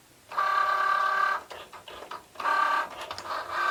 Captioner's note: machine whirring